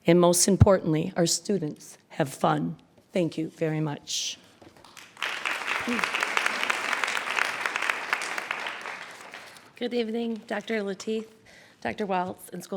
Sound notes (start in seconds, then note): 4.8 audience applauds